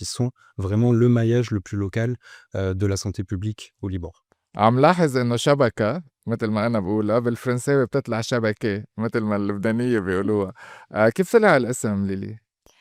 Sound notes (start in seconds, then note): 5.8 pronounced in classical Arabic